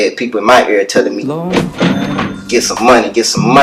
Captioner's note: cash register chinging